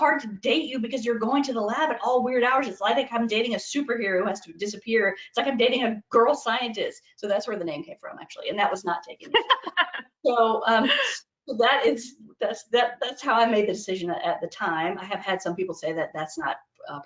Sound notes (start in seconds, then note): 9.2 laughing in background